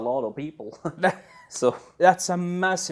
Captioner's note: chuckles